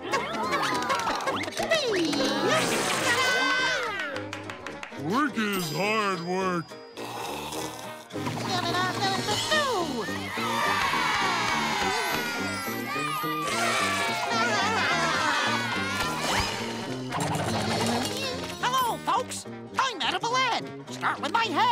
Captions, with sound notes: Ta-da. Work is hard work. [snoring] [cheering] [giggling] Hello, folks, I'm Edible Ed. Start with my head.